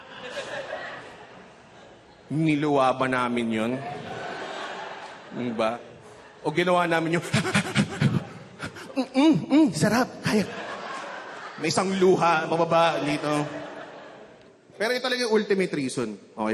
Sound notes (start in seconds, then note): 0.0 chuckling; 7.4 blowing out air